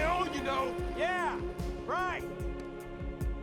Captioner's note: Michael, sarcastically